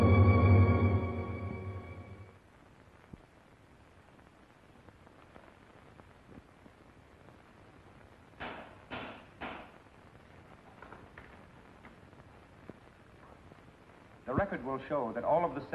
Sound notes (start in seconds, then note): 8.4 gavel banging